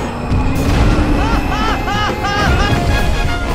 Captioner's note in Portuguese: rindo kkk